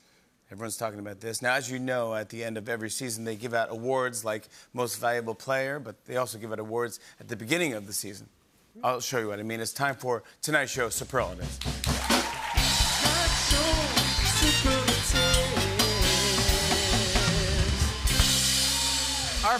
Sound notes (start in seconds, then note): 11.5 cheering and applause